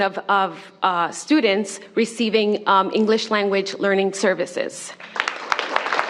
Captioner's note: applause